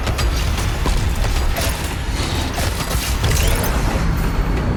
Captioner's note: explosions